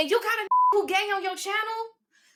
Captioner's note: beep